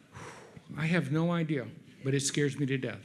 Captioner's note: sighs